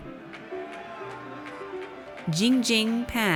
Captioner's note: audience cheers